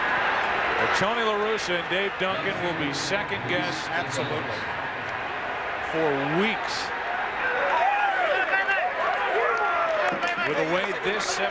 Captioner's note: cheers and applause